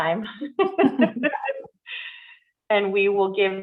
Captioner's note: women laughing